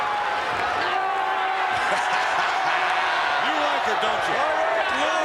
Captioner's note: Vince laughing